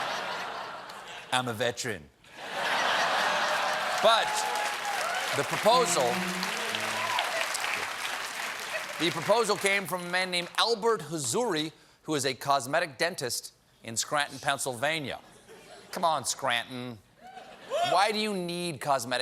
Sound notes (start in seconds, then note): 2.4 laughter; 3.2 applause